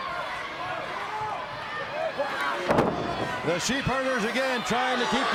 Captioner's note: crowd cheering